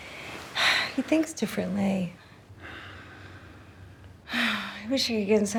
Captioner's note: sighs